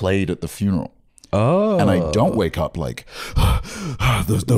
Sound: gasping

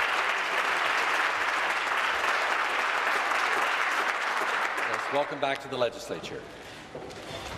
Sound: applause

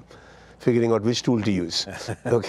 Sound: laughing

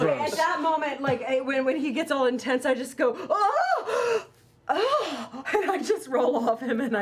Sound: orgasm sounds

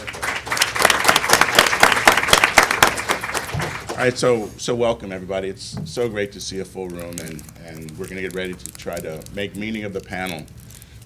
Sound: applause

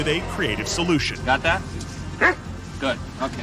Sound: dog barks

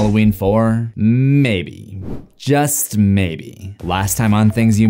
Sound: swooshing

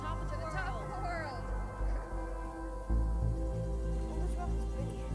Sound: laughing

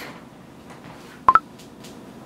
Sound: snapchat notification

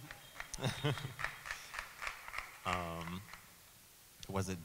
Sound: audience applauding

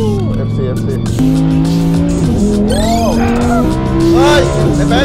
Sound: engine rumbling

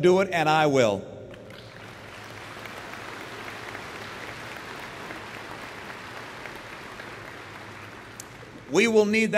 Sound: applause

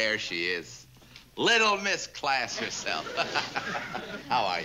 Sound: laughs

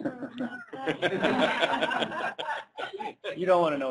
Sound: laughter

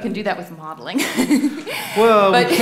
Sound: laughs

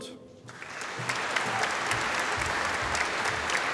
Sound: audience applauding

